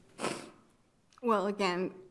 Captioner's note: attendee sniffles